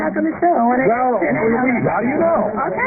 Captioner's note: murmurs